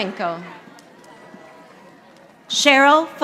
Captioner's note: audience applauding